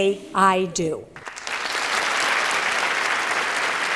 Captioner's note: applause